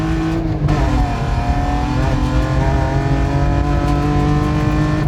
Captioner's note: car revving loudly